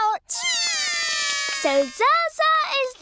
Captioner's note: both cry